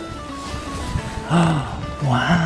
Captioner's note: gasps